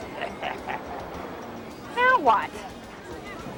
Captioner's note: laughs